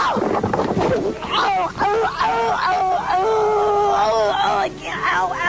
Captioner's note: grape woman groans